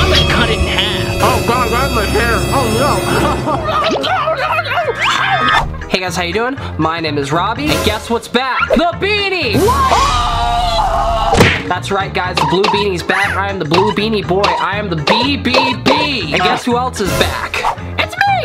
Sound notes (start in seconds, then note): 2.8 laughs; 9.6 screams